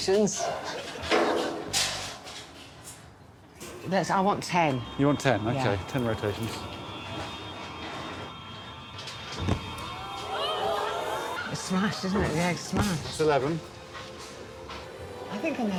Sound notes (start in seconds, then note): 0.9 bonking; 9.7 audience exclaiming